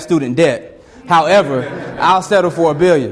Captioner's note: students laugh